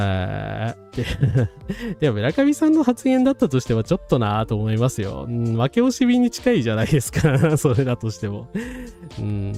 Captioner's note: laughter